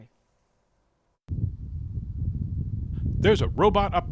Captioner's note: wind blowing